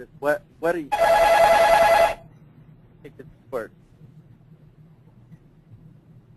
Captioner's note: phone ringing